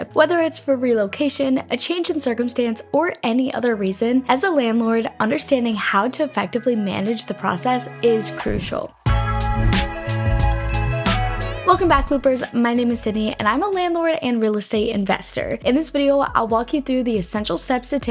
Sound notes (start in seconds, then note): 8.1 upbeat music; 10.3 logo chiming